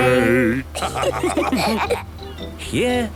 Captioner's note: laughter